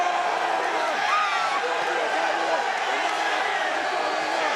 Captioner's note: crowd cheering